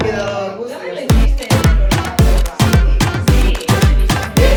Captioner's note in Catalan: castellà